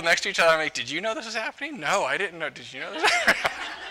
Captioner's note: laughter